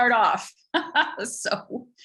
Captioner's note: laughs